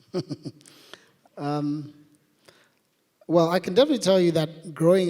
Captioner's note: laughs